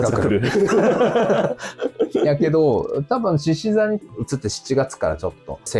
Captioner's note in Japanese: 笑い